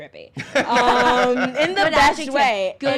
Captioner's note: laughs